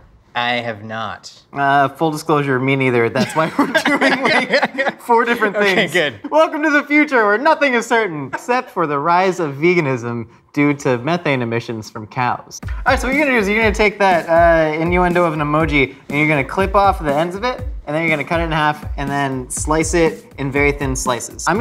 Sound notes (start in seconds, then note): 3.1 men laugh